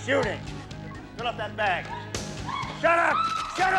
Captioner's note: woman screams